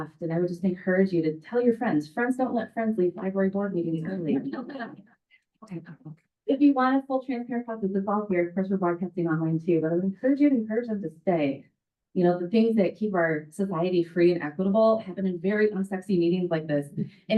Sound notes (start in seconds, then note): 4.0 members chattering